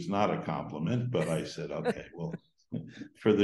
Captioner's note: laughs